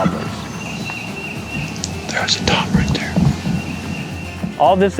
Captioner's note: whispering